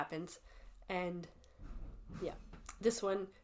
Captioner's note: none